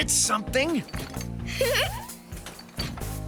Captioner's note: giggles